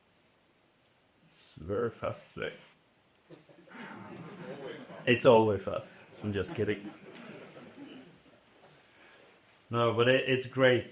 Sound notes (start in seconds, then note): 3.2 laughter